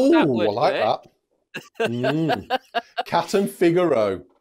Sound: laughs

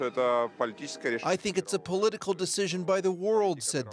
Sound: speaking russian

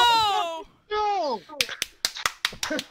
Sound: slightly softer but still enthusiastic; clapping

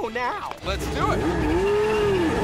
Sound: car engines roaring; tires squealing

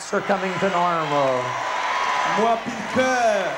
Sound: crowd cheering boisterously

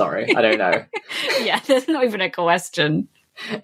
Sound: laughing

